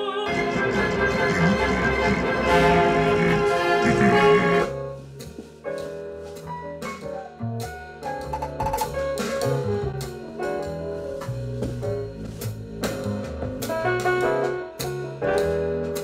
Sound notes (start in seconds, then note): 3.8 grunting; 5.1 upbeat sultry music